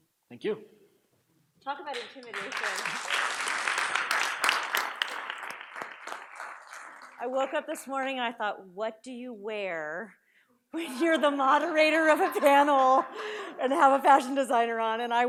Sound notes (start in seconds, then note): 1.8 audience applauds; 9.8 audience laughs